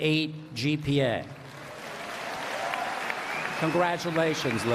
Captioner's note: applause